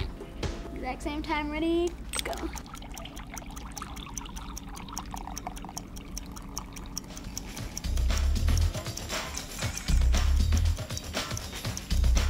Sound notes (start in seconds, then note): 4.9 ticking